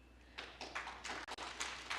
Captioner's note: applause